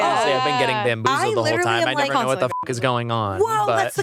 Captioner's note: beep